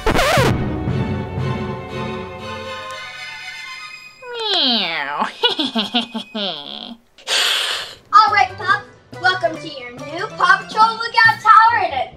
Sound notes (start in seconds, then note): 0.0 quick footsteps; 0.0 record scratching; 5.0 evil laughter; 7.2 cat hissing